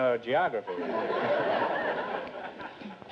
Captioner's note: audience laughter